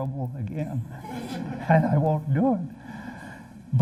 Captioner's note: laughter